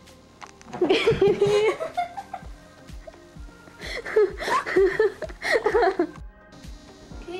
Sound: laughter

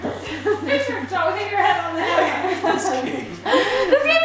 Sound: murmuring

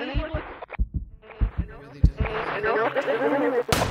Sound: whisper; rising static, alien voices; gunshot

